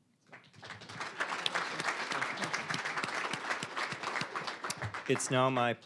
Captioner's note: applause